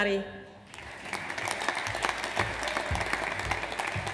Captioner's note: audience applauds